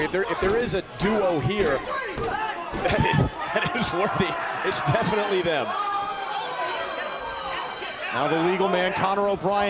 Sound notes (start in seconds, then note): 6.0 crowd cheering